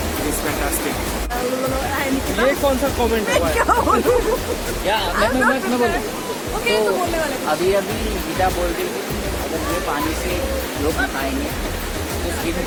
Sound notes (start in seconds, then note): 3.2 laugh